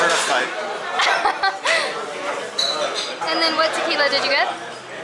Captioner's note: laughter